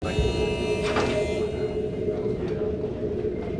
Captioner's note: buzzing